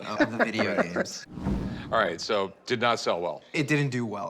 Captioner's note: laughs